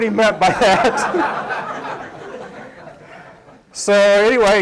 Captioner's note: laughter